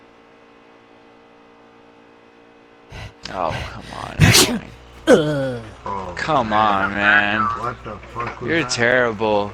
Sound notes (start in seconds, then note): 2.9 about to sneeze; 2.9 sneezes